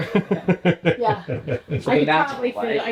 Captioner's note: laughs